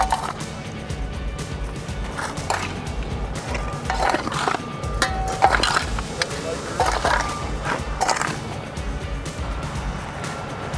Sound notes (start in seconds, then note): 0.9 shovels scrape